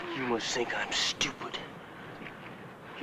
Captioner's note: none